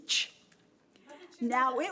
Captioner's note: overlapping chattering